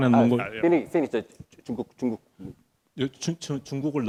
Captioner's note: speaking in foreign language